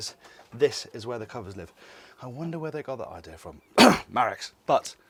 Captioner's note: coughs